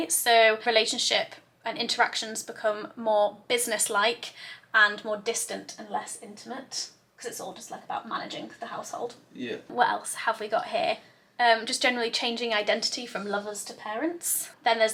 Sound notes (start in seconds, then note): none